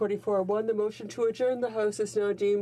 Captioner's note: speaking french